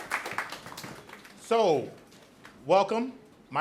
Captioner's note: audience applauds